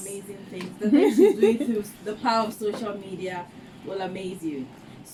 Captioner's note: laughs